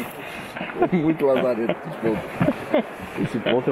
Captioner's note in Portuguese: ri ao fundo